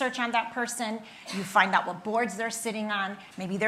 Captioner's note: attendee coughing